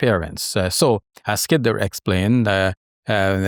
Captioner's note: recites in Arabic